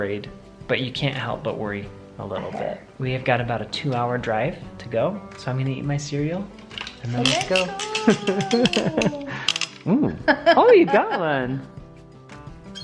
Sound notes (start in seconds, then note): 8.0 chuckles; 11.5 laughs